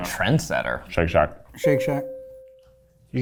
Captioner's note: bell ringing